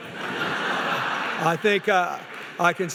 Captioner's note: laughing